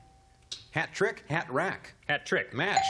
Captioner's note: ding